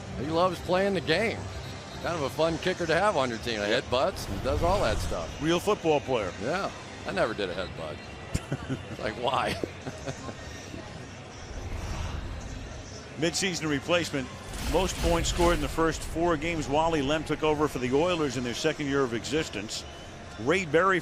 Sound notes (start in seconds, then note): 9.3 laughs; 11.3 upbeat music